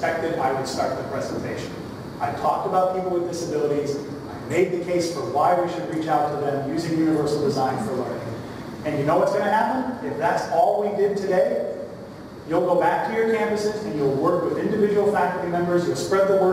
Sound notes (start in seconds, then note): none